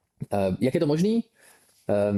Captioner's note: clears throat